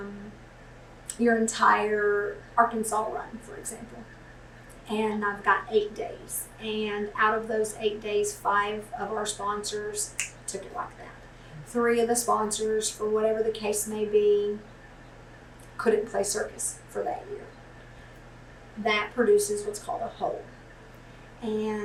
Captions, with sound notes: our entire Arkansas run, for example, and I’ve got eight days and out of those eight days, five of our sponsors took it like that. [Snaps] Three of the sponsors, for whatever the case may be, couldn’t play circus for that year. That produces what’s called a hole, and